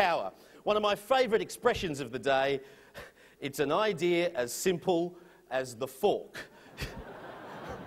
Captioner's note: laughter